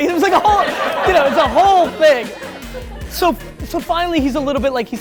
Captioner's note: laughter